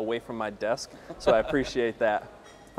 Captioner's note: laughter